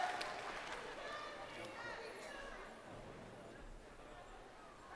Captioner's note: crowd cheering